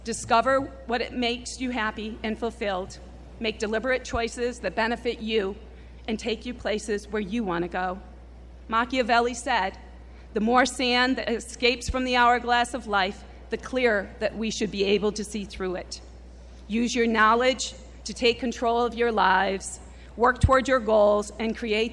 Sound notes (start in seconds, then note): none